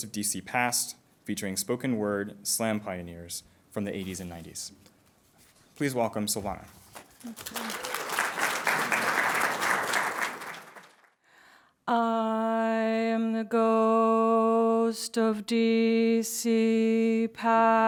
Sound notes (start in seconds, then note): 7.1 applause